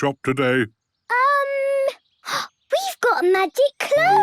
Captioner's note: gasps